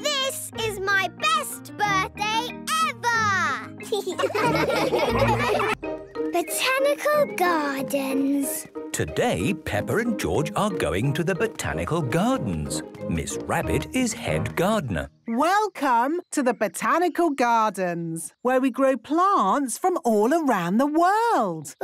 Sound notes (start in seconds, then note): 3.8 laughing